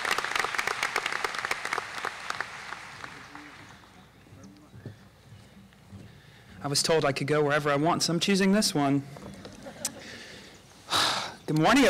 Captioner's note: applause